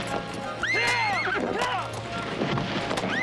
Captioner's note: horse whinnies